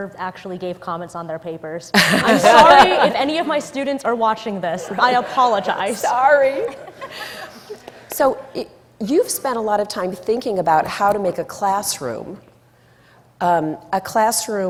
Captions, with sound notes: - Still never actually gave comments on their papers. (laughing) I'm sorry if any of my students are watching this, I apologize. - Sorry. So, you've spent a lot of time thinking about how to make a classroom